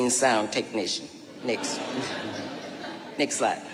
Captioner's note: audience laughing